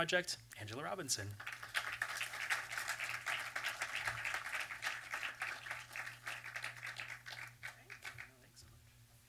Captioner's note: applause